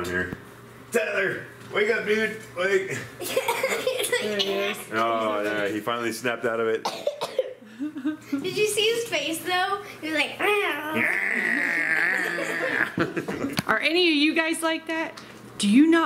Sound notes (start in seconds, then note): 3.2 laughter; 10.4 groans; 12.0 laughter